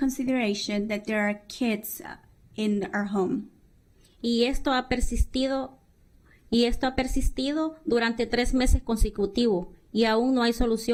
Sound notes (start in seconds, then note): 5.2 speaking spanish; 8.9 speaking spanish